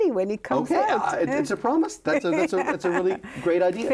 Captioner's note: laughs